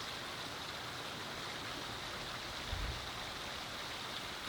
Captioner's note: water flowing